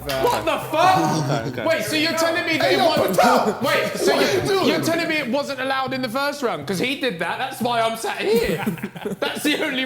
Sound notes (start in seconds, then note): 2.9 men exclaiming; 8.2 men laughing